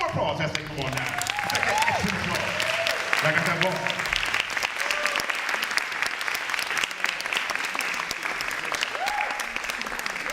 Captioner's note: applause and Cheering